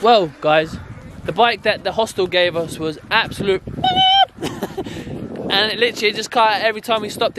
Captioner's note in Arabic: صرير عالي النبرة